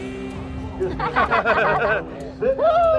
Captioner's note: everyone laughing